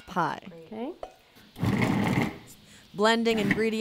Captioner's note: sound up food processor